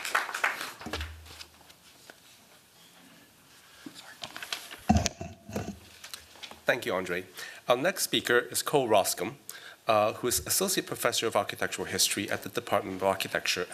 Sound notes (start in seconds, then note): 3.1 whispering